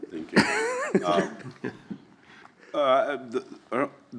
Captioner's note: laughs